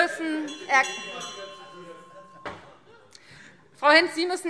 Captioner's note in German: Fortgesetzt Zurufe - Glockenzeichen